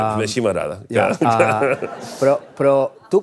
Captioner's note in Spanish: risas